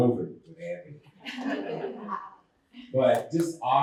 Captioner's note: laughter